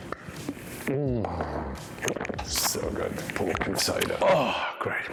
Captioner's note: slurps